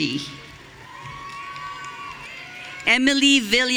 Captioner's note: audience cheering